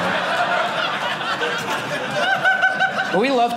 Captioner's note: audience laughing